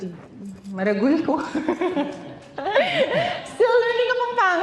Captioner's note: chuckles